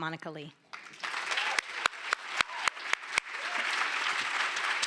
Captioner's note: applause